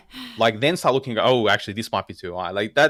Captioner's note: laugh